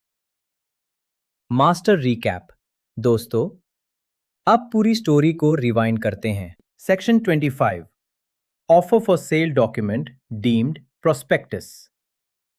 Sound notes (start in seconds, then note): 3.5 pause